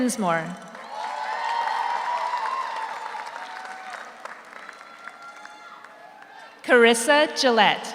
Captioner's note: audience cheers; audience applauds